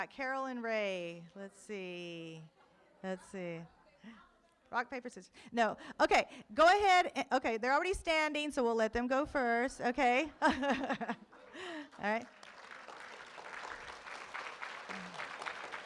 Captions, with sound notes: We've got Carol and Ray, let's see. Rock, paper scissors. No, okay. Go ahead, okay, they're already standing, so we'll let them go first, okay? (laughs) Alright. (room applauds)